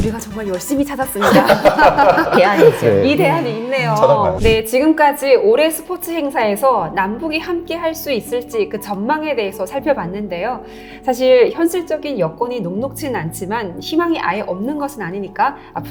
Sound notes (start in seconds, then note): 1.2 sounds of laughter